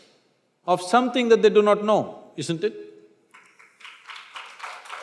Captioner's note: applause